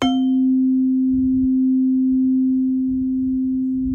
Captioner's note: chime